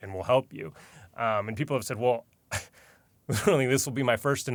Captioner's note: scoffs